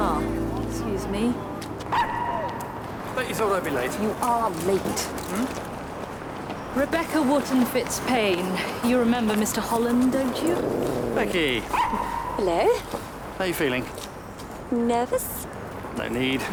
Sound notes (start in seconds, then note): 1.9 dog barking